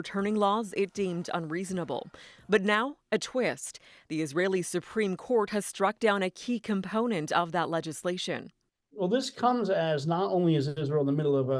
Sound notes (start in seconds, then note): none